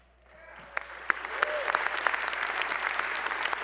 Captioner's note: applause